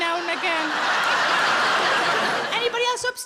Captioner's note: audience laughing